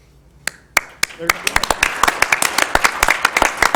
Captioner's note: applause